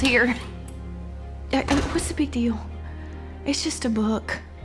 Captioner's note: door shuts